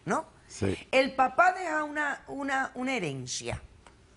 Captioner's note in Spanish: none